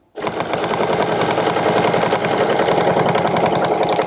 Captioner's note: machine whirring